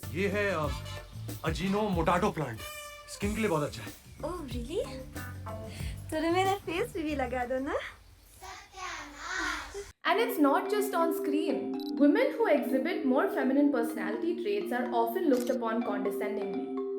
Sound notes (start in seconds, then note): 8.4 background voice